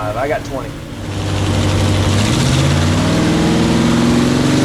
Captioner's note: engine revving